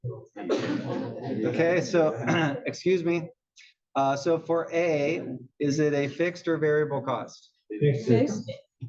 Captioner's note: cough